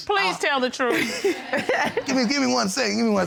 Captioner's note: laughing